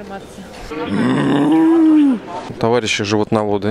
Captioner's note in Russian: Мычит